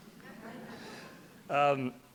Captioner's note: light laughter